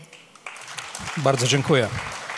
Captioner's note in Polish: oklaski